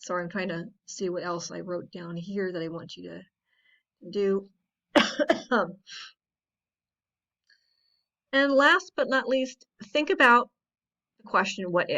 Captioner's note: coughs